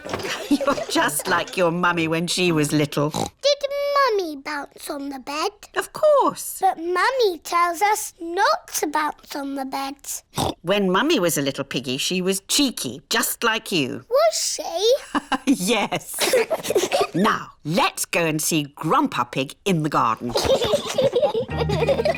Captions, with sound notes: You're just like your Mummy when she was little. Did Mummy bounce on the bed? -Of course. -But Mummy tells us not to bounce on the beds. (OINKS) When Mummy was a little piggy she was cheeky, just like you. Was she? -(LAUGHS) Yes. -(BOTH GIGGLE) Now, let's go and see Grandpa Pig in the garden. (BOTH LAUGHING)